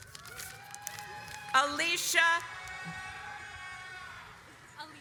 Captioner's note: audience applauds